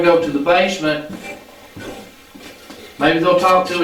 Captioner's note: static playback transmitting